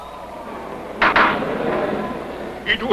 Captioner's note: gavel pounding